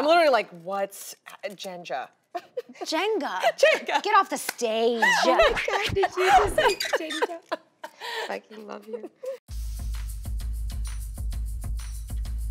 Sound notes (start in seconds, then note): 7.5 laughter; 9.5 upbeat music